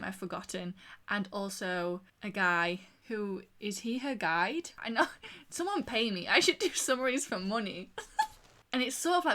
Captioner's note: laughs